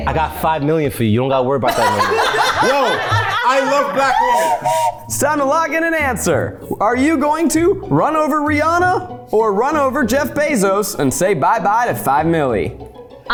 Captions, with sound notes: - I got 5 million for you. You don't gotta worry about that no more. (everyone laughs) Whoa. I love Black women. (whistle blows) - It's time to lock in an answer. Are you going to run over Rihanna or run over Jeff Bezos and say bye-bye to 5 milly?